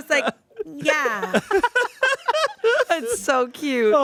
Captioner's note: everyone laughs